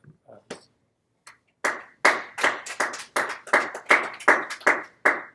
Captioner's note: students applauding